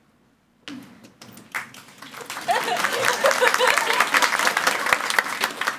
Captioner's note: audience applauds